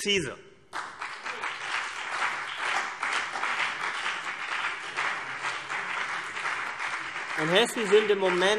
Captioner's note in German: Beifall CDU und BÜNDNIS 90/DIE GRÜNEN